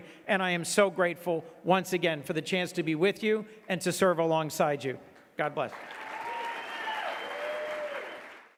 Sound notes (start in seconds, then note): 5.6 audience clapping and cheering